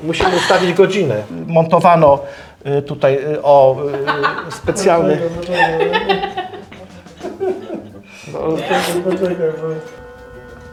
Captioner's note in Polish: śmiech